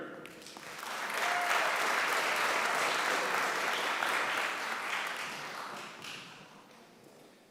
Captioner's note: applause